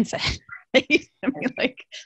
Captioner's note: laughs